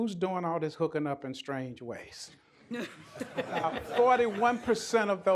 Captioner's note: laughter